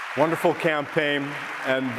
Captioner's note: applause